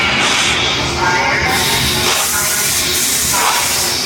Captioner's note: alarm sounds